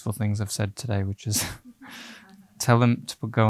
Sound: laughing

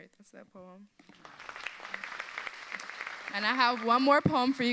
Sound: audience applauds

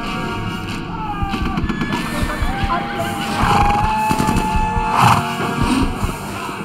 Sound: men yell; guns fire

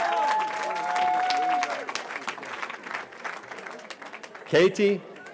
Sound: cheering

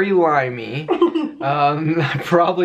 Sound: laughing

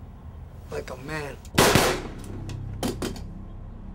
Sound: gun fires

